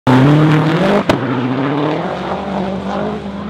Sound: car engines roar throughout video

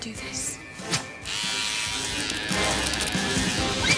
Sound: buzzing

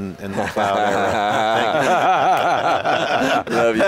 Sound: laugh

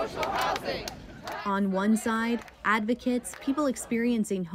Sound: chanting

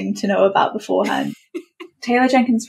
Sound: laughs

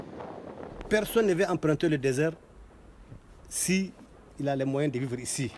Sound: speaks in a foreign language

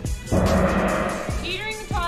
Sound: upbeat music; gong chimes

